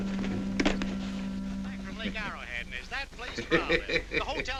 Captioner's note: man chattering on radio; potter laughing